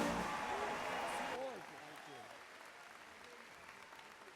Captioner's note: audience applauds